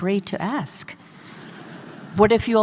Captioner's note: audience laughing